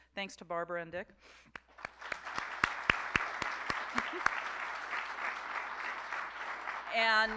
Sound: applause

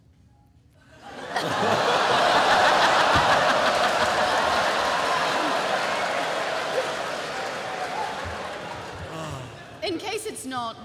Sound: laughter

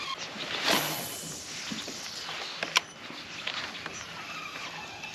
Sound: rod line whooshing; reel spinning

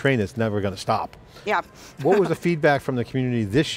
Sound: laughs

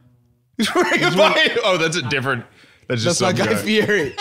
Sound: laughing

